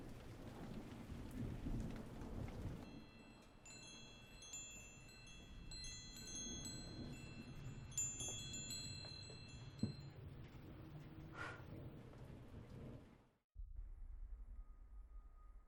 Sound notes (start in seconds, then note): 0.0 thunder rumbling; 0.0 rain pattering; 4.5 chimes tinkling; 11.4 Heather blowing